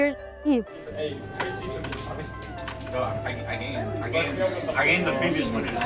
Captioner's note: people chattering